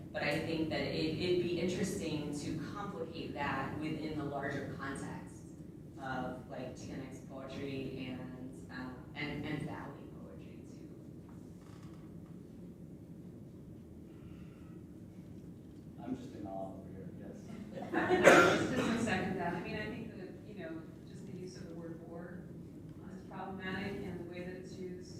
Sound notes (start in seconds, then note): 17.5 laughter